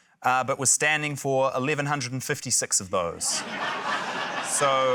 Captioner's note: laughter